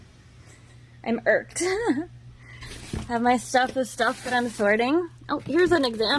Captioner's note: giggles